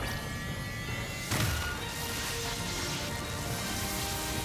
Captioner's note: explosion